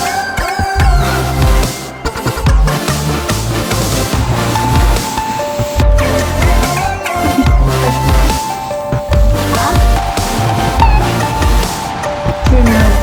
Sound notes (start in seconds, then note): 1.1 upbeat music; 7.0 giggling